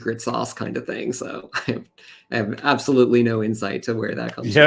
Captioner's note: chuckles